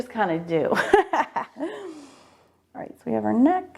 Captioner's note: laughing